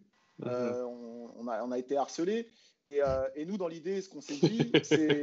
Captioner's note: laughs